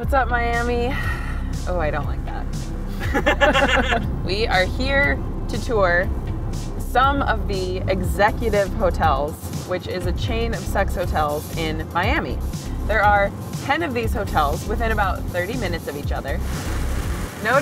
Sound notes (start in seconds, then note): 3.0 laughs